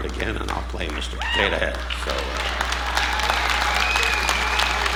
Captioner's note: audience applauding